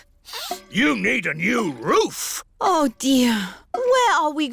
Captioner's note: sniffs